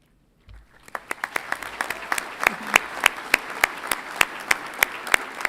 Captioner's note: audience applauds